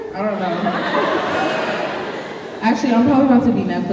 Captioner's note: audience laughing